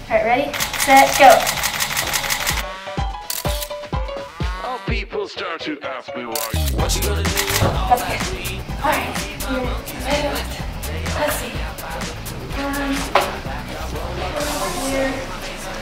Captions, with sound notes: Alright ready, set, go. (camera shutter clicking) - Alright a minute left, let's see. Um, right here maybe.